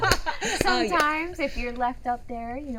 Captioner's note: laughing